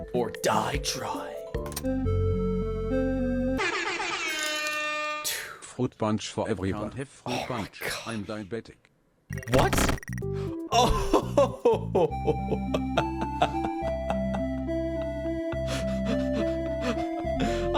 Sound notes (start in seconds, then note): 10.8 laughs